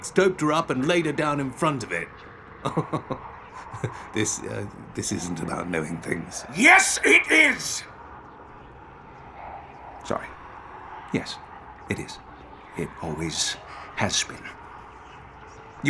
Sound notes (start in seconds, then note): 2.6 laughing